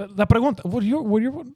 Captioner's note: speaking In Foreign Language